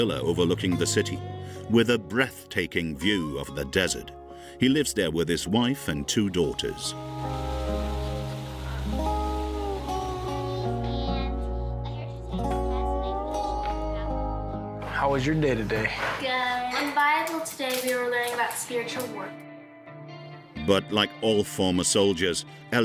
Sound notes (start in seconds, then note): 6.6 grill sizzling